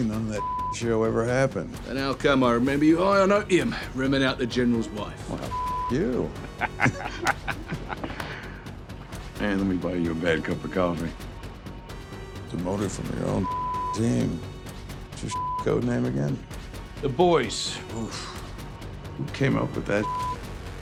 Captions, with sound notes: none of that (beep)show ever happened. - And how come I remember you high on opium, rimming out the general's wife? - Well, (beep) you. (Butcher laughs) Let me buy you a bad cup of coffee. Demoted from your own (beep) team. What's your (beep) code name again? - The Boys. - Oof. Who came up with that (beep)?